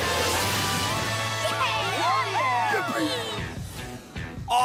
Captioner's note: cheering